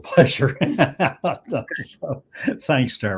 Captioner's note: laughs